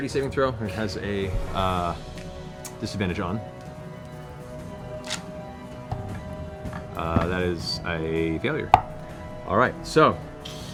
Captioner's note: groans